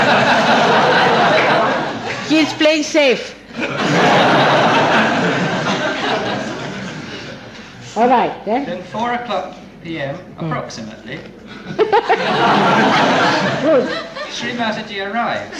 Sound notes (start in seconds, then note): 0.0 laughter